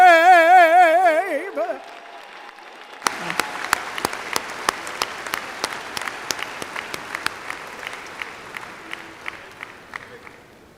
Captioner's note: applause/cheers